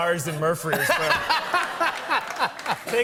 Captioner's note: laughter